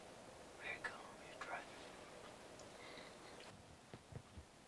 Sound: whispers

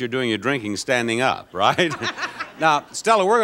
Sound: laughing

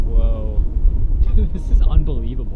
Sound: chuckling

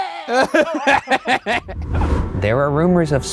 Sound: laughing

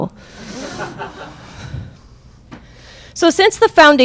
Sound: crowd laughing

